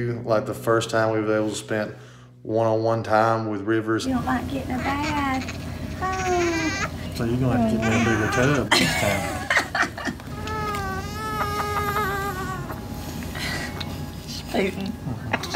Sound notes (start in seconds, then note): 10.2 baby crying